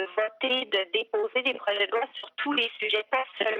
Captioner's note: speaking French